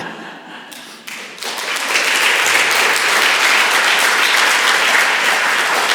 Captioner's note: applause